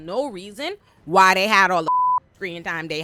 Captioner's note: beep